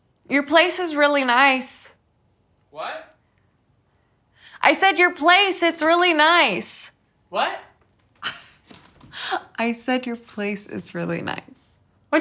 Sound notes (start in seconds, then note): 8.2 Sam chuckles